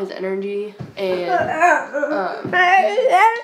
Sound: laughs

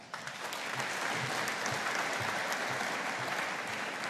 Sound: audience applauding

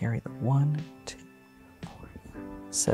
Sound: counts quietly

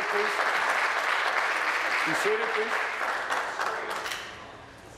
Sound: applause

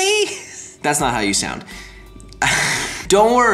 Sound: laughs

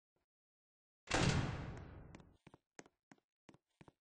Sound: door noise of closing

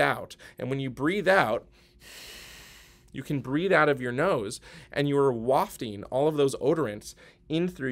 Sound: breathing out

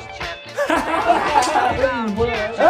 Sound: happy laugh sound

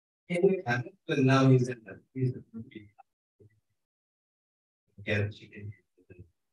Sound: speaking faintly

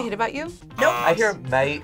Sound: buzzer

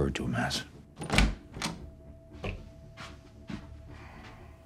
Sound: door clicks

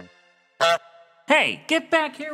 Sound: goose honk

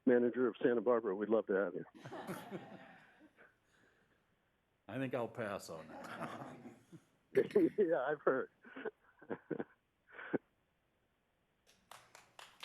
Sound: laughter; laughter

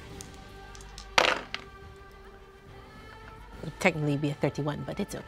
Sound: dice clatter

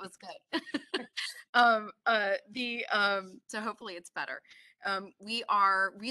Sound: chuckles

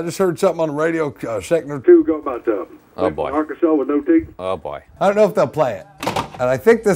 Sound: on phone; thick southern accent; phone hangs up

